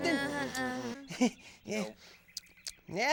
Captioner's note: all mumbling